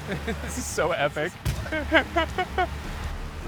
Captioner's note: laughs